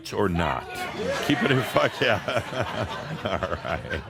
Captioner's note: audience shouts “Yeah!!” and laughter